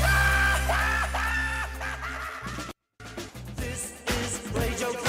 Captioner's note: maniacal laughing